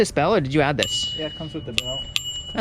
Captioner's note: bell ringing